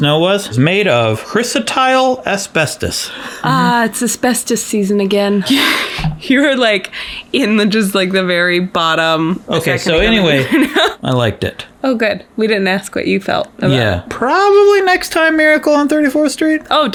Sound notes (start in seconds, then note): 5.4 chuckles; 10.0 laughs